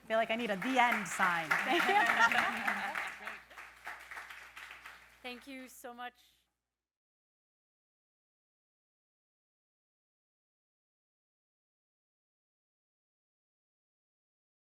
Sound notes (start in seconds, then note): 0.0 audience claps; 0.4 panelists laughing